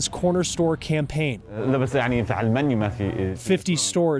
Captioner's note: speaks foreign language